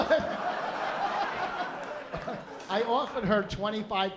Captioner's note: laughter